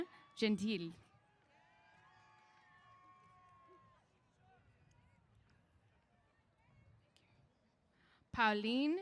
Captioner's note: cheers